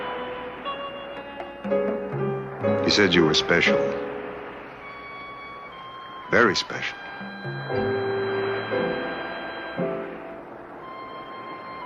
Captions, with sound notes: - He said you were special, very special. (wind whirring)